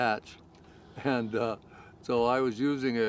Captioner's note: chuckling